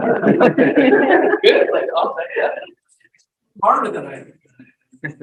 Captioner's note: people laughing